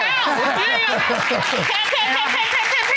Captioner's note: laughing